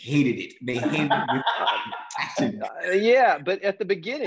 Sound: laughing

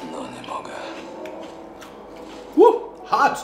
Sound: foreign language

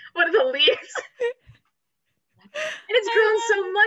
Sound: laughs

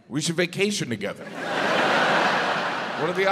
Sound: audience laughs

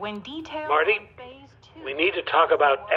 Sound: voice on phone

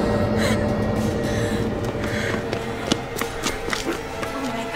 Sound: whimpering

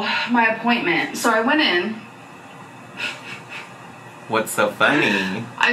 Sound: laughing

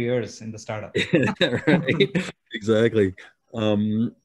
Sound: laughing

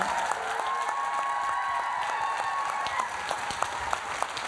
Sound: applause

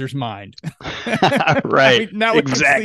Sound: laughs

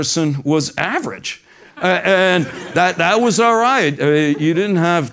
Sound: laugh

